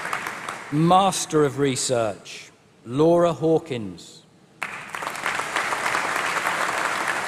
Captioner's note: applause